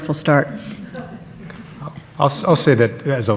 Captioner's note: audience laughs